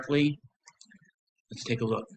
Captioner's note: silence